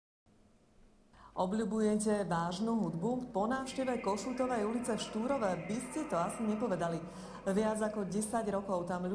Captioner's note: voice of reporter